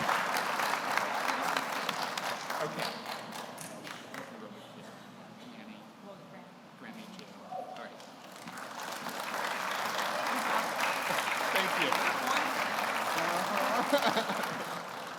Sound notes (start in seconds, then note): 4.2 speaking off mic; 8.2 audience applauds